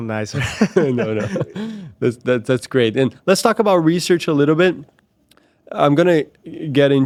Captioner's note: laughs